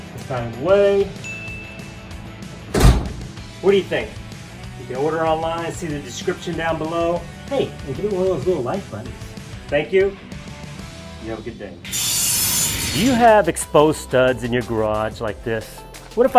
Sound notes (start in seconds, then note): 1.2 bell chimes; 2.6 door slams shut; 11.8 metal blades shearing